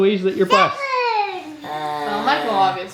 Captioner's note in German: Kind schreit